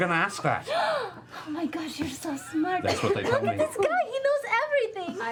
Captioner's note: gasps